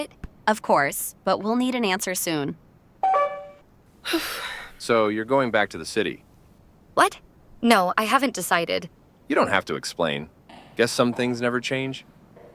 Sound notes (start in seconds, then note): 3.0 phone call ends; 4.0 sigh